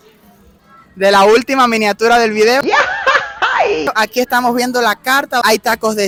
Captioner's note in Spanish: Grito mexicano